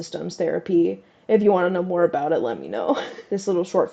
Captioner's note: laugh